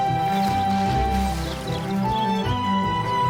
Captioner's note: birds chirping